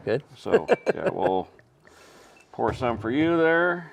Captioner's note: chuckling